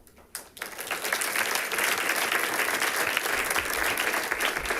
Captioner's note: people clapping